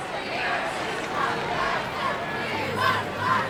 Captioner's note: crowd chanting